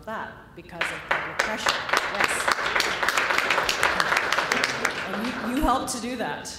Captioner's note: applause